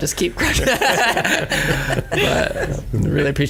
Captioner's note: laughing